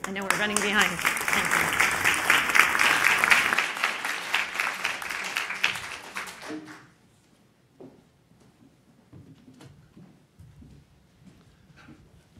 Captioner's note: applause